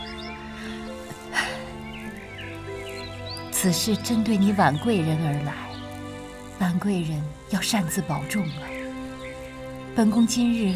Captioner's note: huff